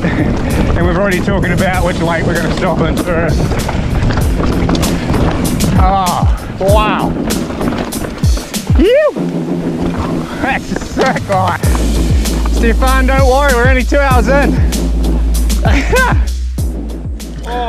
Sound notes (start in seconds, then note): 4.2 bike clatters; 7.3 bike clatters; 15.5 laughs